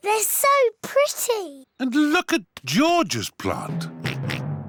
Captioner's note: oinks